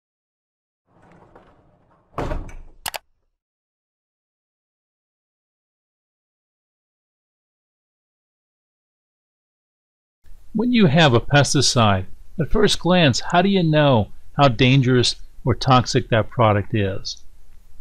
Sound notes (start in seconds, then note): 0.9 bumping; 0.9 clicking